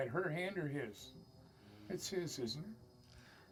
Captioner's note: high-pitched whine